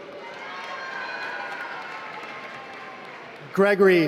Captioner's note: applause